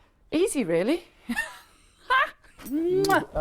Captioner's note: laughs